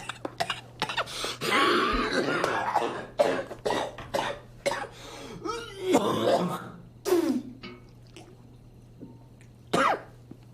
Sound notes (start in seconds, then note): 0.0 loud coughing; 5.4 clearing throat; 7.0 spits; 7.3 sploosh; 9.7 cough